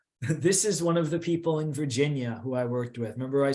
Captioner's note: chuckles